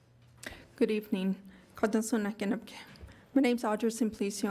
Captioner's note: speaking in foreign language